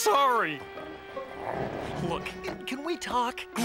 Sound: car growls softly

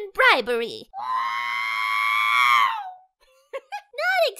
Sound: screaming

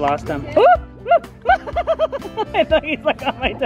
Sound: chuckles

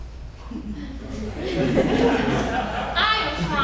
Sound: audience laughing

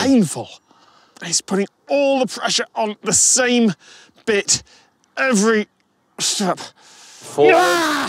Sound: strained; roars angrily

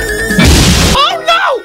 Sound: 𝘽𝙊𝙊𝙈

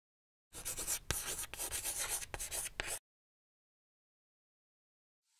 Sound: chalk scratching board

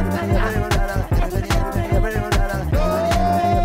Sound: laugh

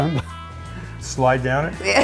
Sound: laughing

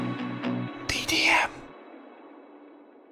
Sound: whisper

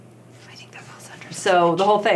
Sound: whispering

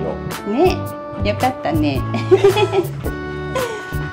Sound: laughs

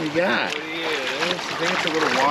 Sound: fish splashing

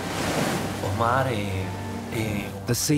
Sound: speaking Spanish

